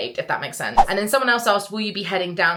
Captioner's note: screen fwipping